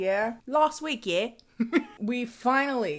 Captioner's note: laughs